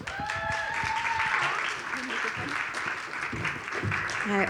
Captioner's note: audience applauds